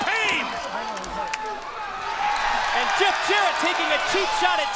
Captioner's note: crowd cheering